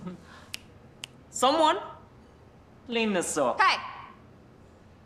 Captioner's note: snapping